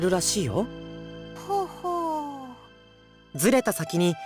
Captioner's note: acknowledging hum